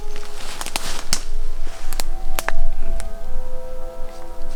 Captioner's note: branches snapping